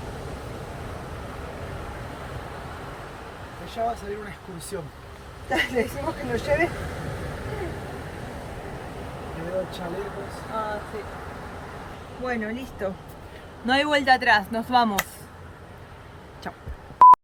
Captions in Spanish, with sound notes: - De allá, va a salir una excursión - ¿Le decimos que nos lleve? (risas) - Les veo los chalecos salvavidas - Ah si! Bueno listo! No hay vuelta atrás, nos vamos. Chau!